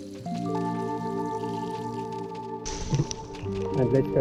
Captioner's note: minor but exciting flow from light rain